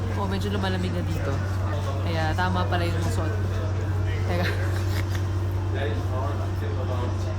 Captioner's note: laughs